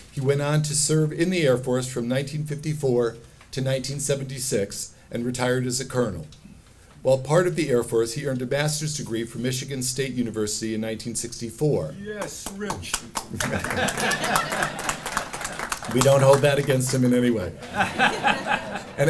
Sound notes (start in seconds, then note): 13.4 cheering and laughing; 17.6 audience laughing